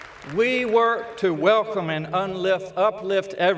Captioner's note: applause